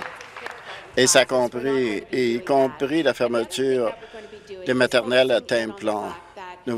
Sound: applause

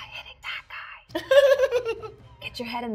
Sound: giggles

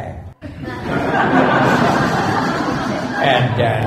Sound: laughter

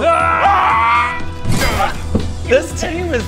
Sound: grrgh

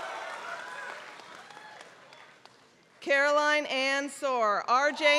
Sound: applause

